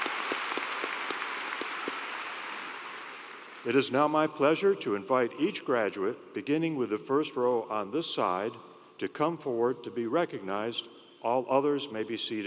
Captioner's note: cheers and Applause